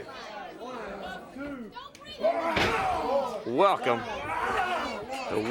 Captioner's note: crowd chatter